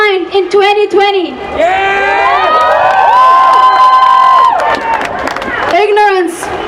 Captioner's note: cheering